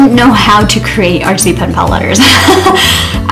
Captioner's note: laughs